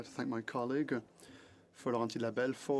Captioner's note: speaking French